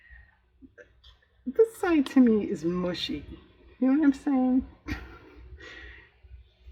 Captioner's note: laughs